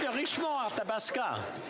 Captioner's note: some Applause